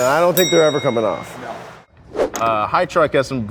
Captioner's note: bell dings